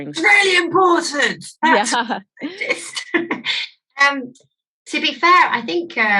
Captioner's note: chuckles